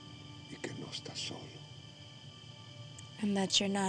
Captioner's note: speaking spanish